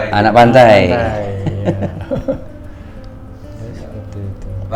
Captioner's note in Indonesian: tertawa